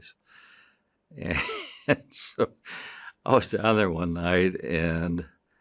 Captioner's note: chuckling